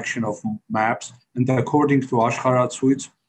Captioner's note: speaks foreign language